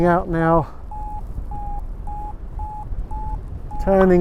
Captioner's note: Vario beeps